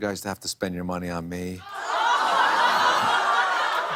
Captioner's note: laughter